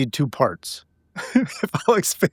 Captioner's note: laughing